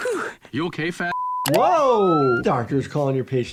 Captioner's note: Chris panting; beep